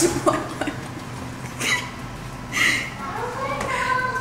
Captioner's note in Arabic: تضحك